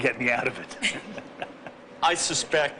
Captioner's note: laughing